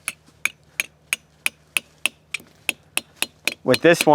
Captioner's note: hammer hits gradually increase in pitch